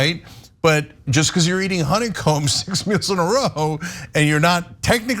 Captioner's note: laugh